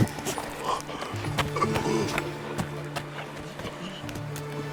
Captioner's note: gasping for breath